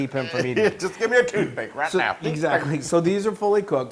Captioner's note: laugh